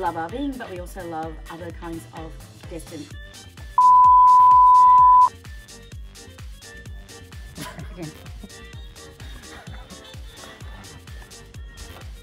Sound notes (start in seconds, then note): 3.8 beep; 9.1 laughs